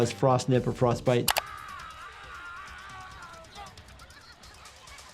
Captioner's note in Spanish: persona gritando